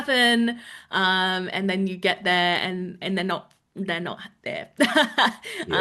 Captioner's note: laughs